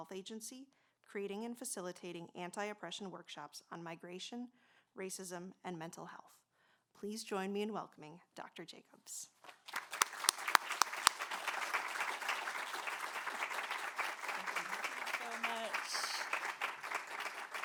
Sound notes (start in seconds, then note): 9.4 applause